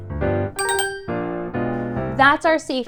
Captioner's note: chime